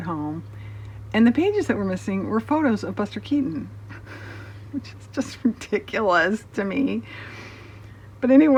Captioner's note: laughs